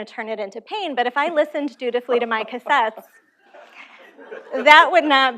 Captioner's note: laughter